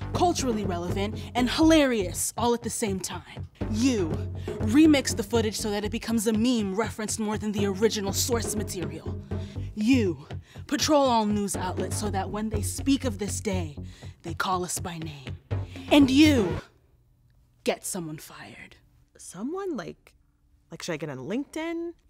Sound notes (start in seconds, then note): 16.7 gasps